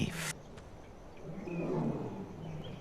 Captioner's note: growls